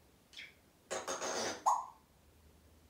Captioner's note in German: Pfffff sound